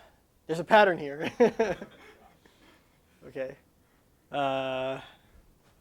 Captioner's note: laughter